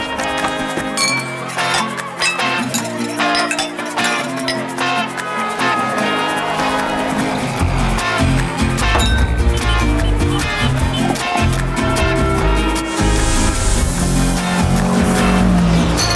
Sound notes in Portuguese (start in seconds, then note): 5.0 veículos ao fundo, buzinas; 8.7 tilintares, buzinas; 11.7 badalar de sino; 14.0 veículo acelerando